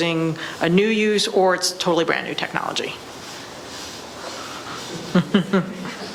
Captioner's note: laughs